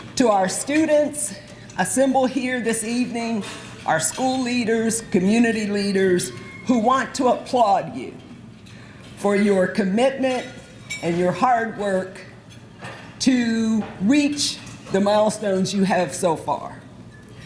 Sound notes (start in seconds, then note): none